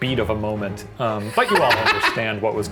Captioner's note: laughs